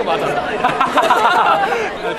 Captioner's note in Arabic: هاها